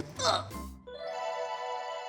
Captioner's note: grunting